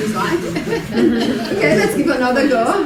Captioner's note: congregation laughing